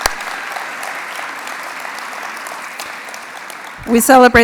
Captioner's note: applause